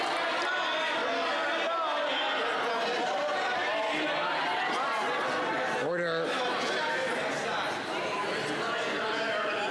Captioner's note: some Applause